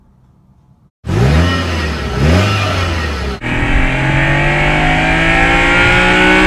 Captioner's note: Nissan RB26DETT sound